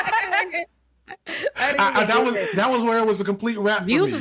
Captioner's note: laughing